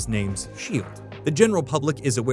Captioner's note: whoosh